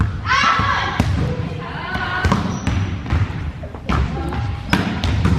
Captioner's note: girls yelling